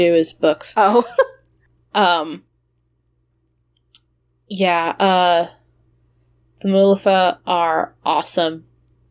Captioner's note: laughs